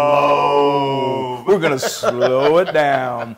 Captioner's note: laugh